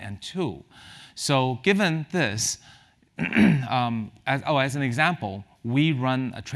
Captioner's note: cough